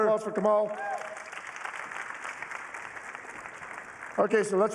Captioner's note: applause